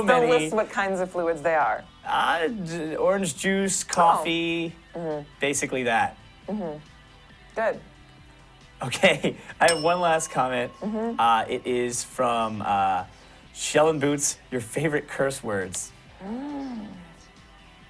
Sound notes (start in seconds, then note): 9.7 bell rings